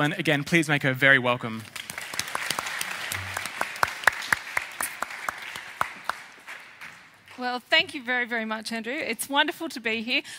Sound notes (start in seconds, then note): 1.6 applause